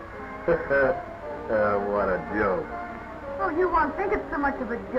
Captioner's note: laughing